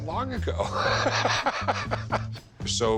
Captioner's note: chuckling